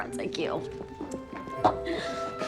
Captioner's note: footsteps